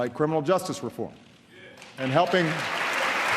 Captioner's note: applause